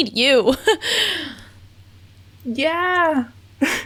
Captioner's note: laughs